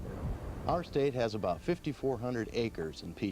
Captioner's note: voiceover